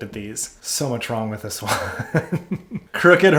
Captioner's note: laughs